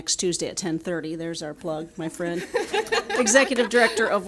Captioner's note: audience laughing